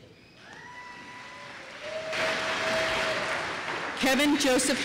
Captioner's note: applause